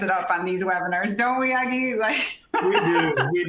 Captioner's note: laughter